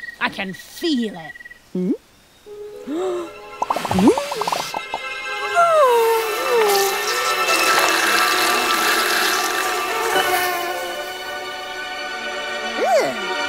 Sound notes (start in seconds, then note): 2.4 eerie music; 2.5 dramatic music; 2.8 Lucy gasps; 2.8 Lucy struggling to breathe